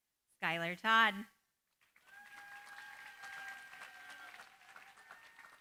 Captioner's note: cheering, applause